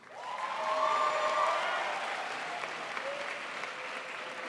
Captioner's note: crowd applauds